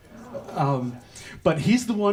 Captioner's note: audience makes sounds of astonishment